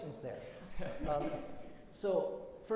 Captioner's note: laughter